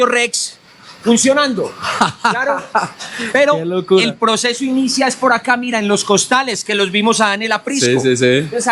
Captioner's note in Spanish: risas